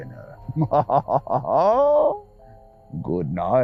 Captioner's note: laughs